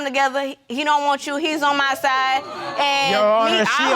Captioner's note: audience exclaims